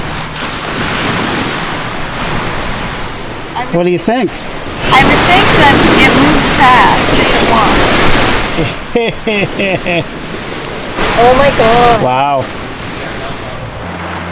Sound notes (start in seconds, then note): 8.5 evil laugh